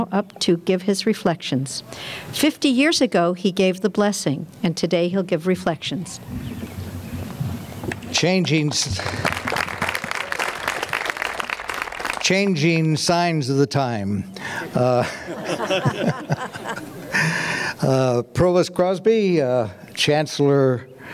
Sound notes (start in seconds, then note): 8.4 clapping